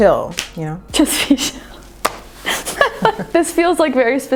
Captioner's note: laughing